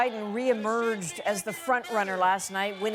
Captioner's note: cheers and Applause